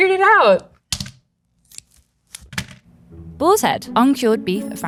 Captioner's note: plastic rustling; package thunks